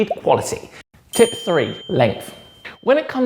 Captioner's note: bell dings